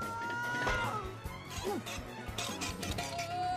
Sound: yells; grunts

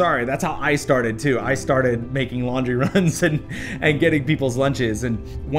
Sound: laughter

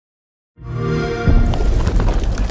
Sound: no speech; xbox sound; bird wings flapping

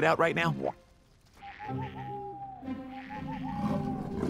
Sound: owl Noises

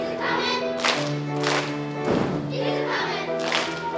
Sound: claps; claps

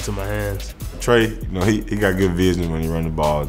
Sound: voiceover

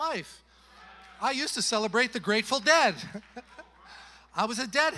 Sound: chuckles

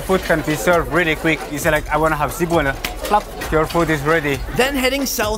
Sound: flap

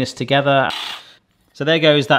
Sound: whisk whirs

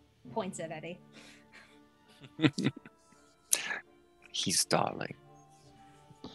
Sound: chuckles

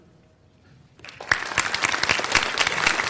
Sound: applause

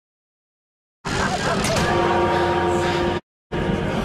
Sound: church bell chimes

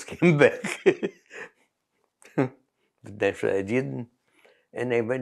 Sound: laughs

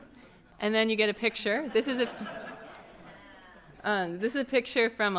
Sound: giggles

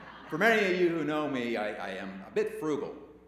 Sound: laughter

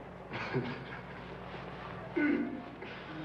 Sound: Sam laughing

